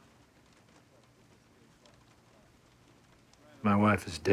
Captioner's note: thunder rumbles